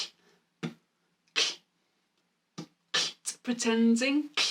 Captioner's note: beatboxing